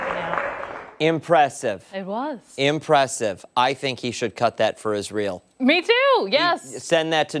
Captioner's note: applause